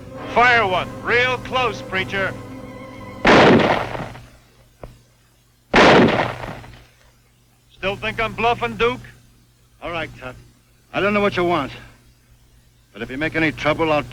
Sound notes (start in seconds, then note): 3.3 gun firing